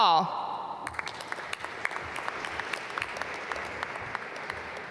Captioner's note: applause